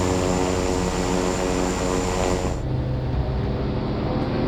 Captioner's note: plane engine roars